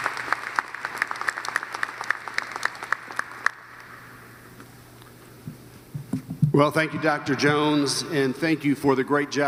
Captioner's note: applause